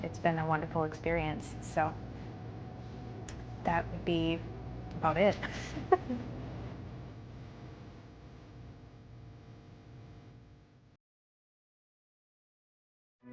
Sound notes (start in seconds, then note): 9.9 laughs